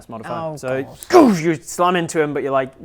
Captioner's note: goosh